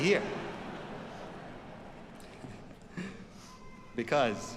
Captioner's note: audience laughs